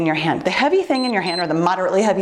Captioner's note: timer beeps